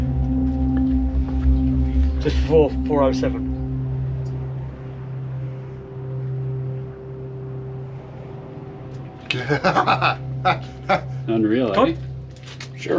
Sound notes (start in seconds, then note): 0.1 intense suspenseful music continues; 3.9 intense suspenseful music continues; 9.3 laughs excitedly